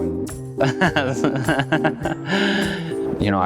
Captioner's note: laughs